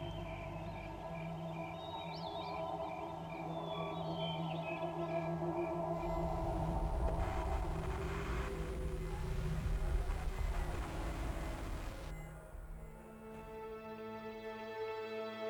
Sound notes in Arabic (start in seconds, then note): 3.8 موسيقى مشؤومة; 7.6 طنين ثابت; 12.5 موسيقى حزينة